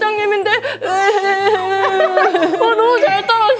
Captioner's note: crying